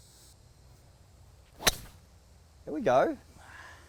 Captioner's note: crisp golf drive